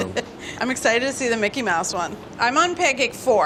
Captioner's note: laughs